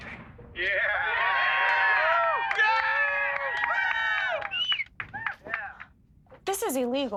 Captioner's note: group cheering